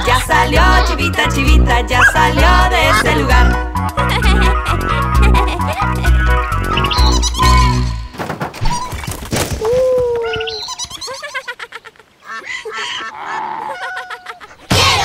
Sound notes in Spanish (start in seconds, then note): 3.8 Música Alegre; 6.6 Sonido de pájaro; 10.2 Sonido de burro, pato